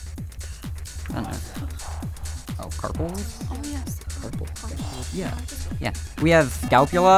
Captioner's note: whispering